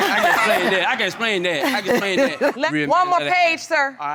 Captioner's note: laughing